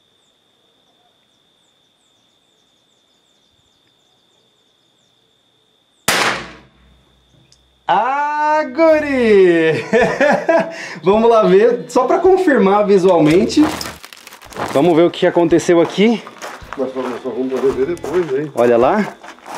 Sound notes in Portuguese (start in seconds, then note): 6.0 Disparo; 9.6 Risadas